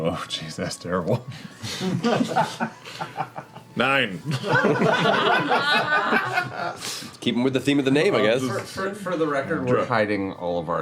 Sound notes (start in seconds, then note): 4.2 laughter